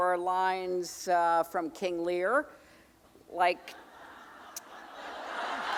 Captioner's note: audience laughing